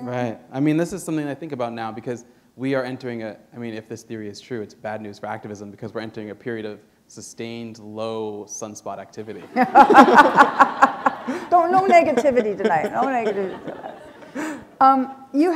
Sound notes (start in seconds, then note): 9.4 laughter